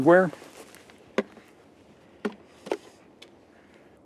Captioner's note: plastic snaps